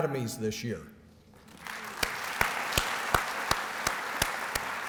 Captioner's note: applause